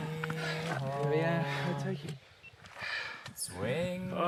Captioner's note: runners panting